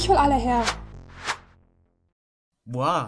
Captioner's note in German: Whoosh